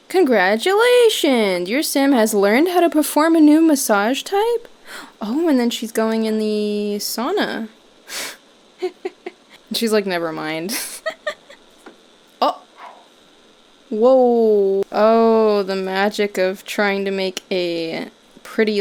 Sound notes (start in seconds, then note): 10.7 laughing